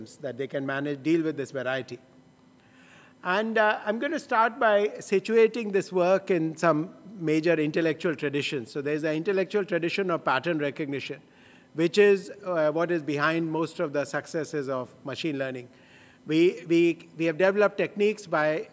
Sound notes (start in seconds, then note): none